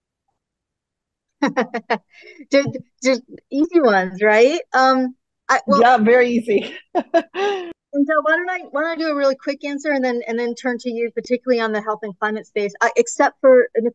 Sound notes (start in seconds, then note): 5.7 laughs